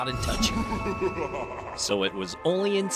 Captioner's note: creepy laugh plays